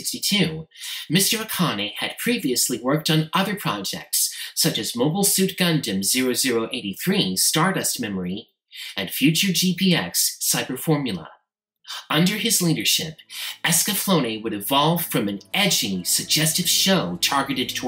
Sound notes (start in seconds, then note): none